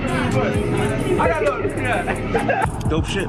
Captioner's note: background club noise; laughing